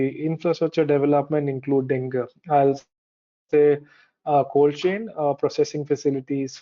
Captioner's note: audio distorts 06.32